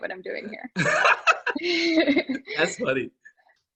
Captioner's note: both laughing